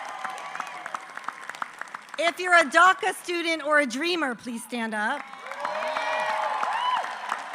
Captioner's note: applause; applause